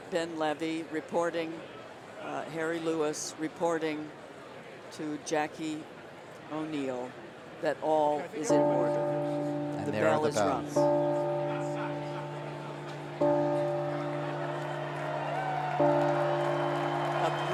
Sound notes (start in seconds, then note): 9.2 bell rings; 13.3 cheering